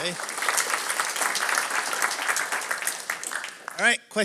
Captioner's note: applause